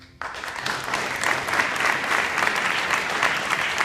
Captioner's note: applause